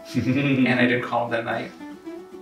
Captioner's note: laughs